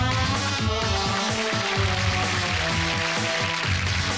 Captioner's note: applause